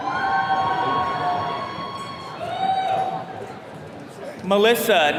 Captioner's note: attendees cheering